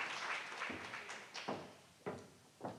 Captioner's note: applause